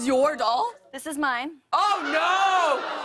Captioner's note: audience gasps